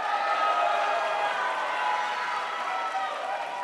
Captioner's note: crowd applauds